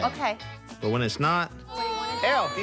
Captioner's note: kid cries